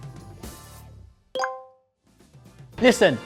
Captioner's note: score chimes